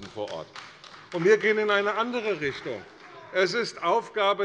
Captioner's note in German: Beifall bei der CDU - Zuruf von der SPD: Das ist doch Unfug!